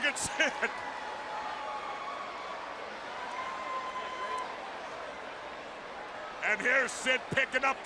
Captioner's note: crowd chatter